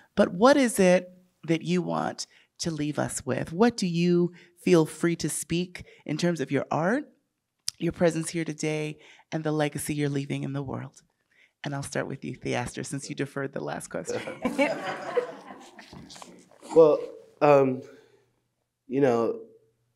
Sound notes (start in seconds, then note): 14.1 audience laughing